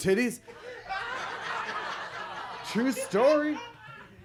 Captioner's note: audience laughs